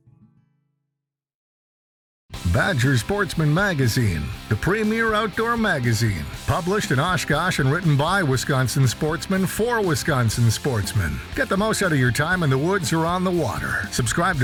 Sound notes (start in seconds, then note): 2.7 voiceover